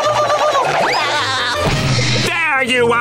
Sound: giggling, thudding

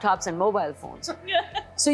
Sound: laughs

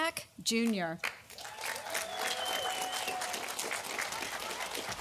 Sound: audience applauding

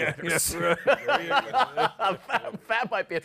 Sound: laughter

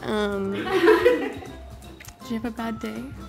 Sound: cast laughs

